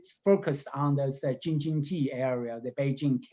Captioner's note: speaking in Mandarin